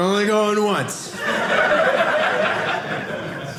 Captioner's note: audience laughing